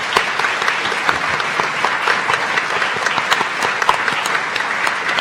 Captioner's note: audience applauding